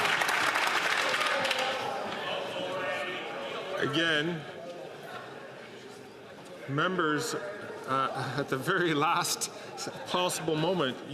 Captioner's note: some Applause